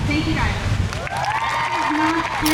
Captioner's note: crowd cheers